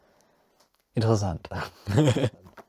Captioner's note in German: lacht